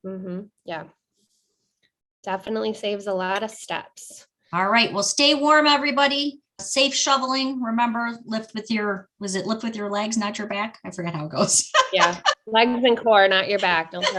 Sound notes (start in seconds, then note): 11.5 laughing